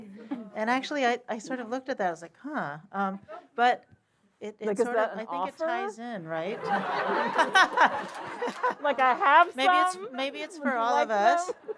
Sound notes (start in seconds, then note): 6.5 laughter